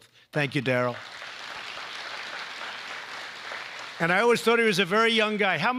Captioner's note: applause